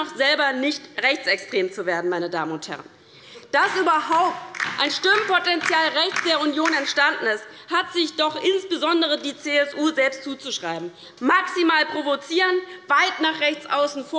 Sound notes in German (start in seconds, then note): 4.1 Beifall bei der LINKEN